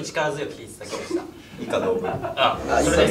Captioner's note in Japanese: スタッフ笑い声